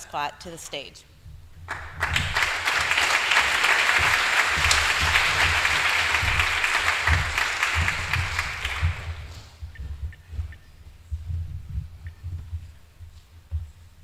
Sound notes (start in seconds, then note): 1.6 applause